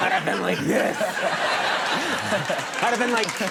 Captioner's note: audience laughing